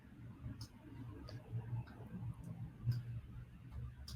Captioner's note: mouse clicking